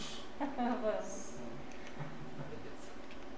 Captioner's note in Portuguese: Risos